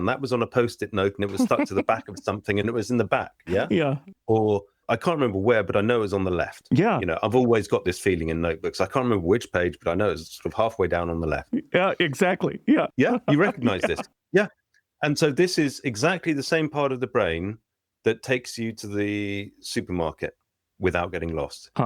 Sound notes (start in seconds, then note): 3.8 laughter; 13.2 laughter